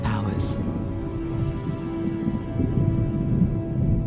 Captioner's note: thunder rumbles